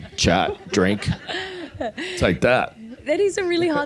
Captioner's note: audience laughing